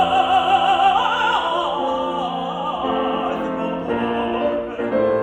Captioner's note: tenor opera music continues; audience applauding